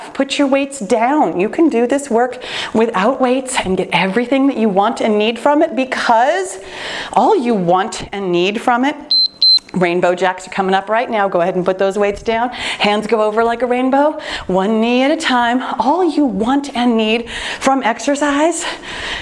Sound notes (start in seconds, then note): 9.0 timer beeping